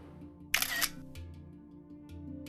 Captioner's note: camera shutter clicks